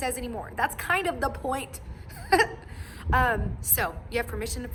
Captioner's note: laughs